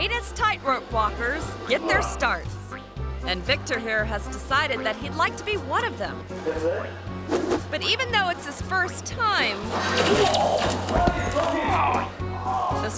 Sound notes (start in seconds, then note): 6.7 trainer speaking foreign language; 9.6 thuds; 10.7 groans